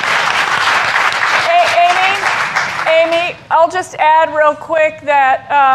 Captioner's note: applause